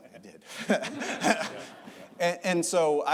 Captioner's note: audience laughter